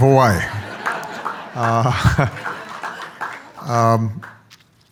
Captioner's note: audience laughs